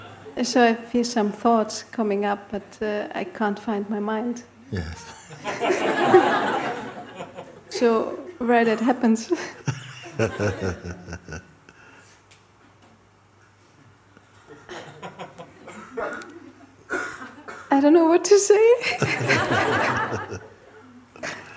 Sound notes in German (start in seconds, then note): 4.7 Lachen; 9.5 lacht; 18.8 Lachen